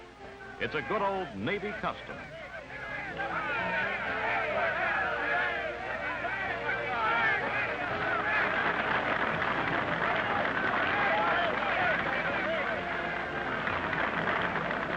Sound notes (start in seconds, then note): 3.1 shouting and applause